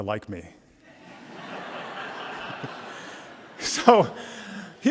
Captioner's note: audience laughing